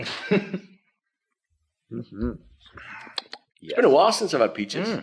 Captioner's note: chuckles